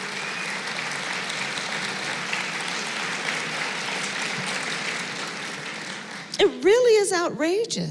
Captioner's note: applause